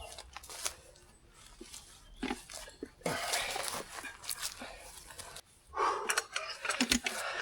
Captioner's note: exhales